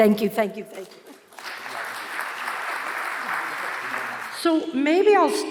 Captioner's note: audience applauds